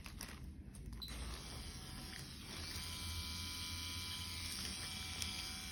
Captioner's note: machine whirring